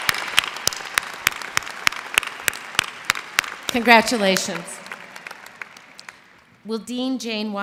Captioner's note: applause